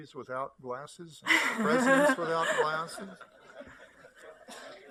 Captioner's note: laughter